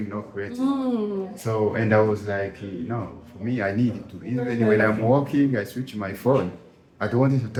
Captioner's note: hmm